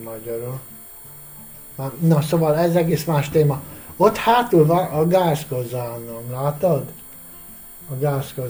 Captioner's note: boiler